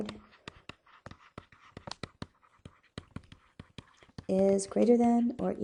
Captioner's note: continued stylus writing on board